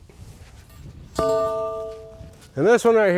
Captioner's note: metal pole bangs